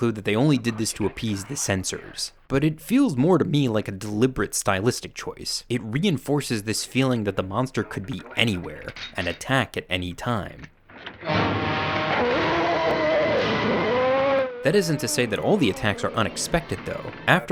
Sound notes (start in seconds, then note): 11.1 dramatic music; 11.2 monster growling